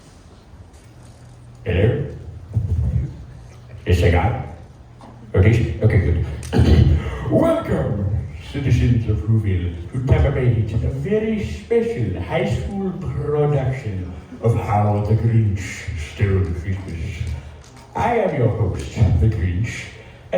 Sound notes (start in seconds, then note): 1.8 over PA Speakers; 6.4 clears Throat